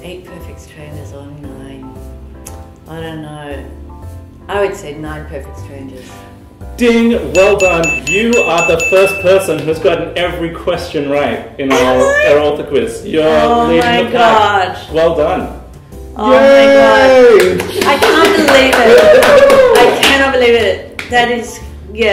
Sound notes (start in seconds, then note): 7.3 ding!; 17.3 clapping